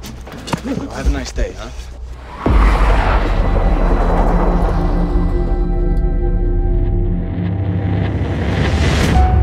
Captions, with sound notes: Well, have a nice day, huh? [Car speeds off]